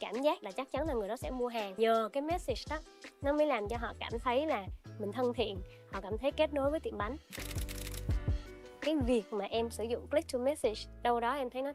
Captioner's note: speaking another language